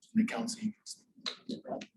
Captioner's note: none